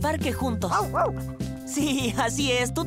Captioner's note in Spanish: ladridos